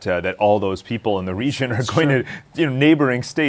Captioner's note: laughs